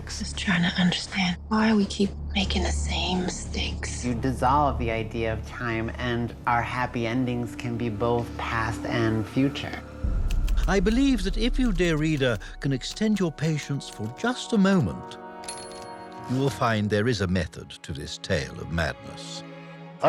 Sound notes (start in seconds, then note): 15.0 typewriter dings